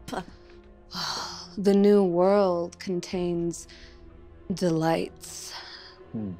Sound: sighs

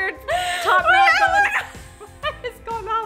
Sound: laughs

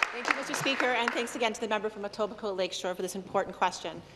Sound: applause

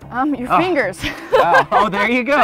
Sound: laughing

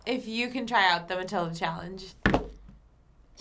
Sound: slamming table

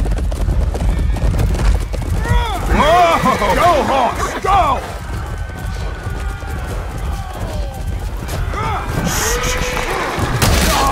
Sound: horses running; weapons clashing

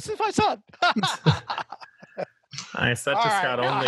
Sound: he laughs

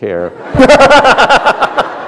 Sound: laughter

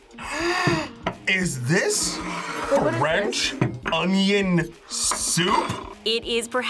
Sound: gasps

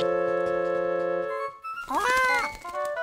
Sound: squawking

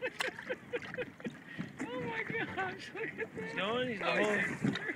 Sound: laughs

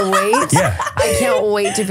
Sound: laughing

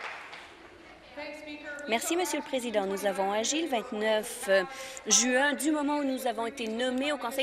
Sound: applause

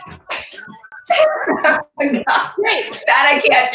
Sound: laughs

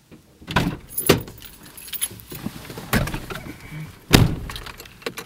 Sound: car door opens and closes

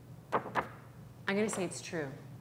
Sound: paper rustling

